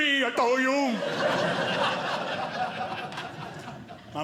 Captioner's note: audience laughing